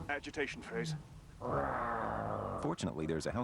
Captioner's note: man #2 roars